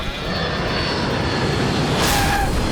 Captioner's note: jet roaring; tires skidding